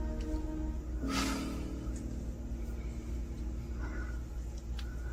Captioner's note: Roger sighs